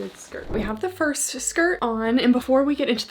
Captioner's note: screen whooshing